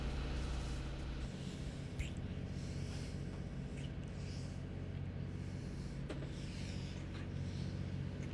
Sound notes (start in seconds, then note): 1.1 smooching